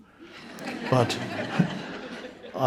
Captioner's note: audience members laughing